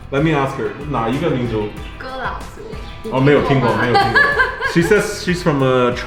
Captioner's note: speaking foreign language